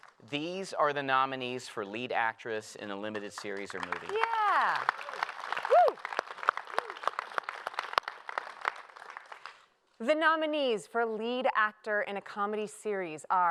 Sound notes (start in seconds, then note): 3.0 applause